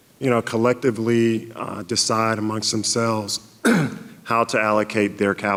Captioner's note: clears throat